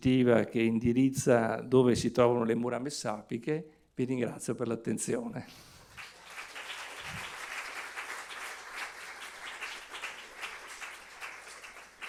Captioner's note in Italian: Applauso